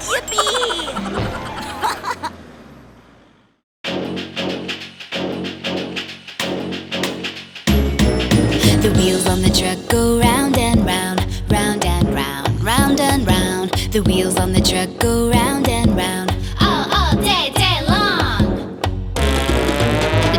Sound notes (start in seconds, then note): 1.6 laughing; 4.1 cheerful energetic music